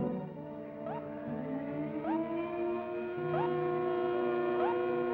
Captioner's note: alert blaring